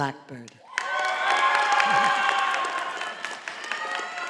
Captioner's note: audience applauding